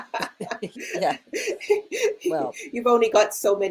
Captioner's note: both laughing